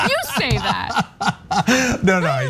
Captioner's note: laugh